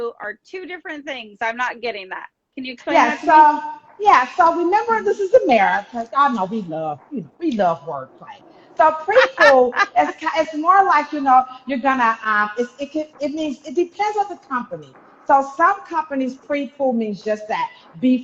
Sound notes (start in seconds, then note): 7.9 laughing